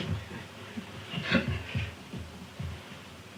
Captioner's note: laughs